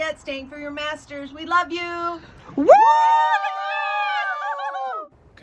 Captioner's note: shouts in joy